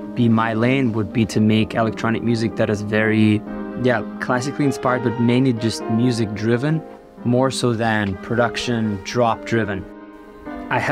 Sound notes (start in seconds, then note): none